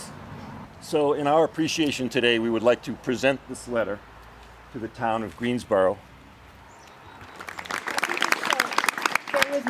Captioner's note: applause